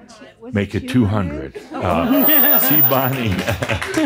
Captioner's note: some applause; laughter